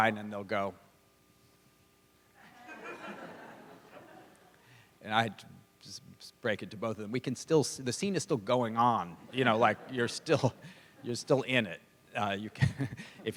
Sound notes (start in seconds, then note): 2.4 laughter